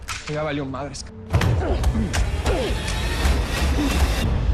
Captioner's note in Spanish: Golpes